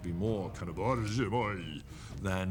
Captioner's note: speaks in foreign language